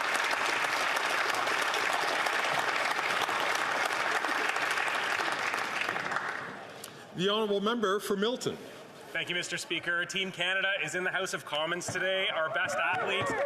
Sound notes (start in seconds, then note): 2.8 some Applause